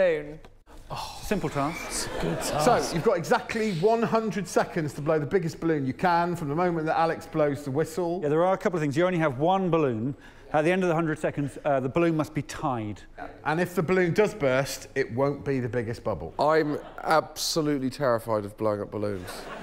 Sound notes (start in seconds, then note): 14.9 laughter